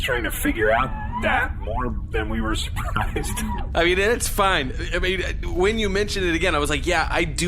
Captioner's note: laughing